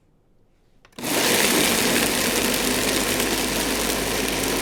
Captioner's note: blender whirring